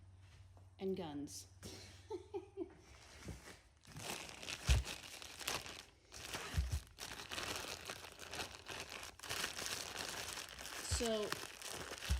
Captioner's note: crinkling plastic sounds; laughs